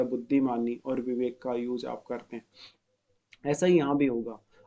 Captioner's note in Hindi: नाक से की जाने वाली आवाज़